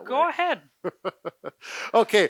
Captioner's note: laughing